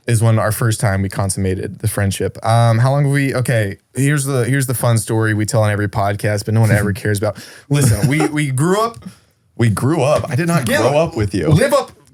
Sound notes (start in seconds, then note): 7.7 chuckles